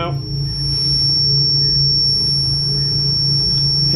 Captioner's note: beeping